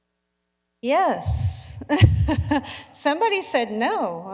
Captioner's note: laughing